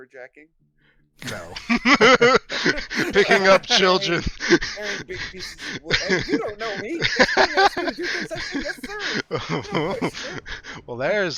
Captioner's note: laughs